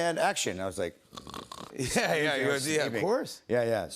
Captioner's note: snoring